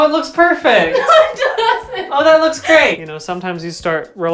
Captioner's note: laughing